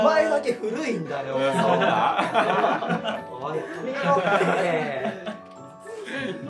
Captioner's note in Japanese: 笑い